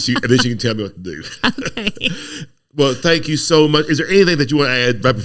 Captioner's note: laughing